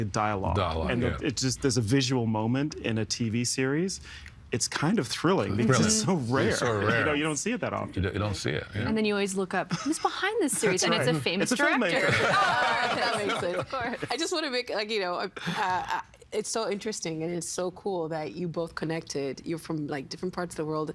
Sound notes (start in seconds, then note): 11.9 all laughing